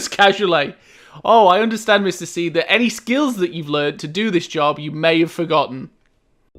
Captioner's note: mocking